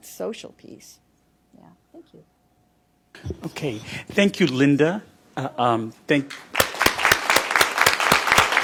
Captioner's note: applause